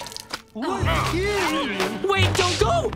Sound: groaning

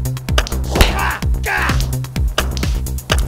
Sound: punch

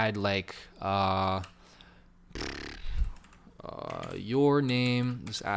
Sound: keyboard clicking

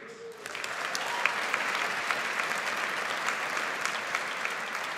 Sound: audience applauds

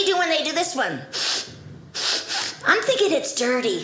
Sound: inhaling deeply

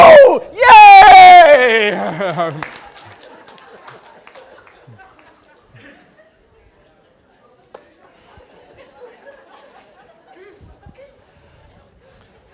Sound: applause and Laughter

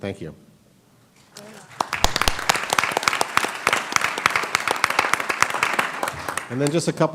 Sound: applause

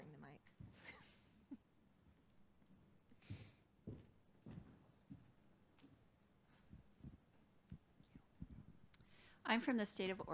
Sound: laughter

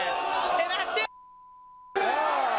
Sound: beep; audience cheering

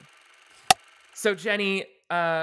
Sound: clapperboard cuts

